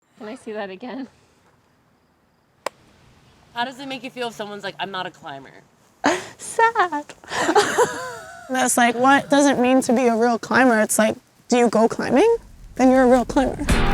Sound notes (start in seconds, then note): 2.7 light clapping; 7.3 laughs; 13.6 relaxing music